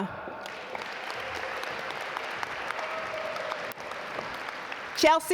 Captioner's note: audience applaud